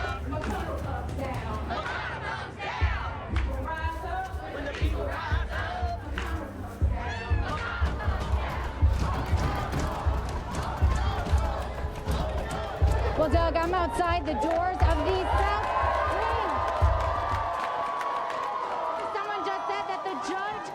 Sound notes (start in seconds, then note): 0.1 crowd cheering; 8.9 door banging; 15.8 crowd cheering